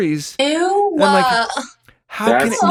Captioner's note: groans